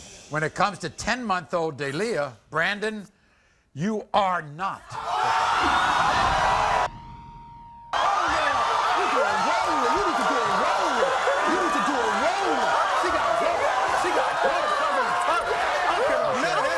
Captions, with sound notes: When it comes to 10 month old Deleah, Brandon you are not the father. (crowd gasping) - (beep) (shouting)